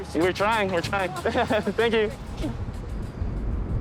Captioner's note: chuckling